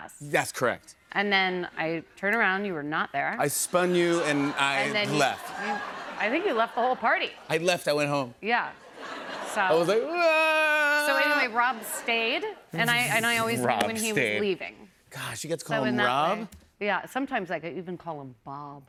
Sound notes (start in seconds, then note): 10.0 mock cries